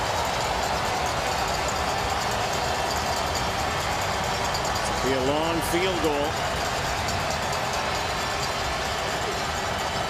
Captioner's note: cheering